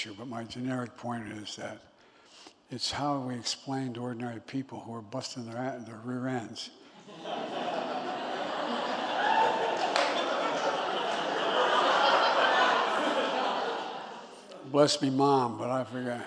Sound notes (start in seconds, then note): 6.9 laughter